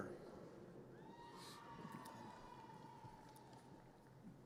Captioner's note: audience cheers